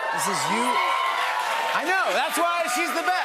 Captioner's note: cheers and applause